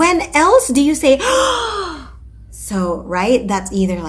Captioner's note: gasp